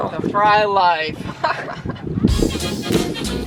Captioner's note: chuckling